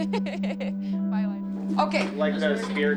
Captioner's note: laughs